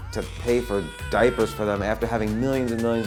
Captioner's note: baby cries